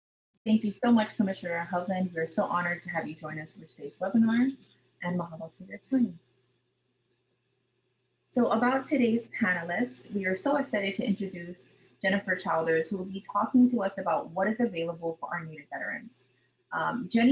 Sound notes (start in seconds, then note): 5.5 speaking in a foreign language